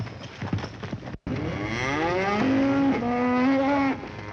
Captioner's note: mooing continues